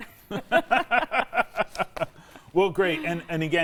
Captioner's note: laugh